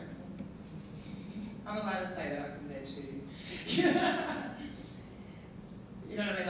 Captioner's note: laughing; laughing